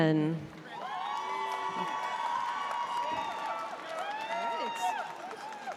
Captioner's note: audience cheering